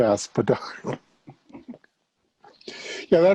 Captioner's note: laughing